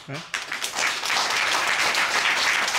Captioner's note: applause